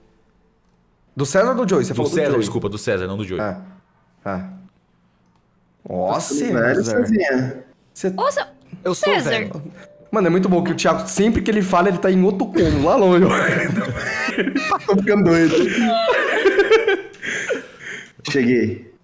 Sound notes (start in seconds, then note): 12.6 laugh